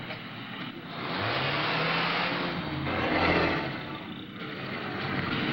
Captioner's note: car engine revs